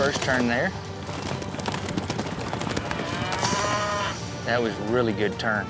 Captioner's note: hoof beats, mooing